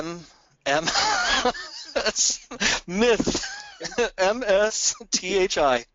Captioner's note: laughing